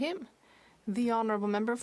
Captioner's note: speaking French